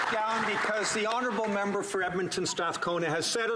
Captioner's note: applause